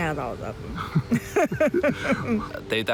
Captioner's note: both laugh